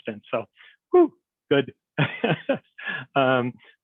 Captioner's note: laughs